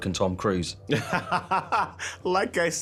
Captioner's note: he laughs